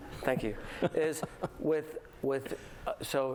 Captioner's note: laughter